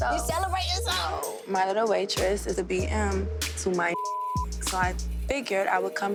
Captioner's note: beep